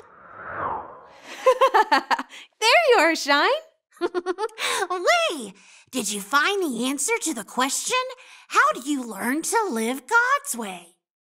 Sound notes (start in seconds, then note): 3.8 laughing